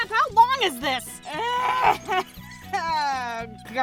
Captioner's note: groaning